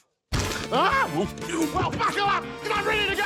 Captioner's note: grunts